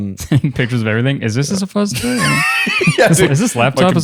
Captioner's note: laughter